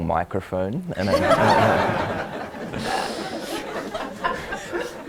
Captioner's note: audience laughs